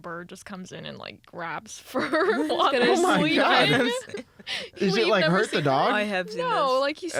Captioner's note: laughs